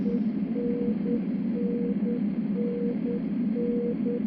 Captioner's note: machine beeping